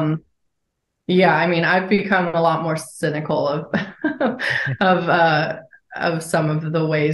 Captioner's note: chuckles